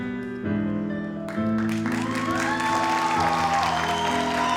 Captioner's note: audience applauds